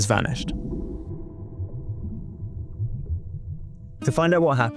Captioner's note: water bubbling